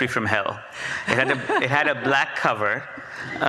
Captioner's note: audience laughs